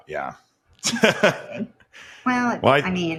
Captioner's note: laughs